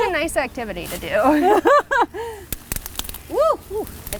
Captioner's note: laughing